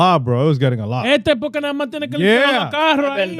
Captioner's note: speaking In Foreign Language